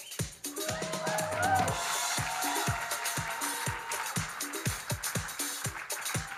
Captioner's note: audience cheering and applauding